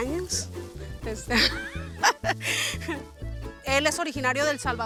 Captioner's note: laughing